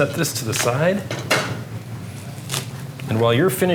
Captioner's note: clanking